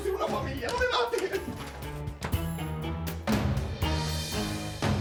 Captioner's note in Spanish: Portazo